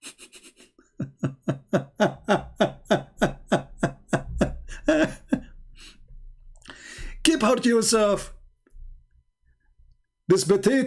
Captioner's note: Ketawa